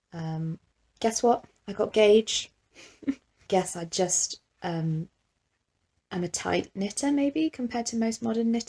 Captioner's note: awkward chuckle